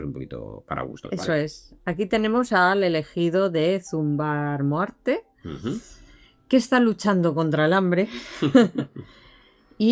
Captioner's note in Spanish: risas